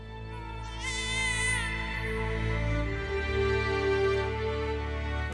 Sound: baby cries

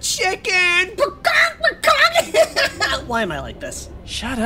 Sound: imitates clucking sounds

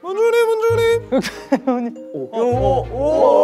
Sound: laughter

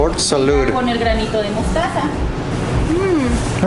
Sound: speaking in Mexican

